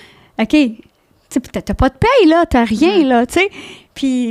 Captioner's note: in french